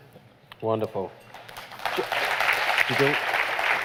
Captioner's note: applause